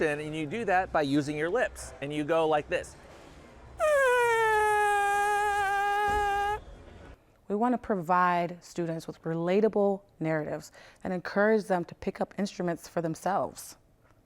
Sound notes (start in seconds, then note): 3.8 creates vibration with lips